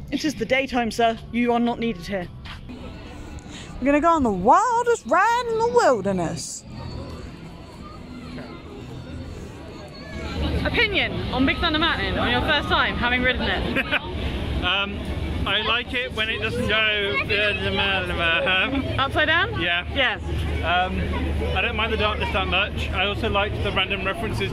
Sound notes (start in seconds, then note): 13.7 laughs; 17.8 whirly noise